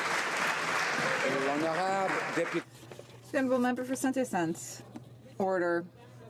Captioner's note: some Applause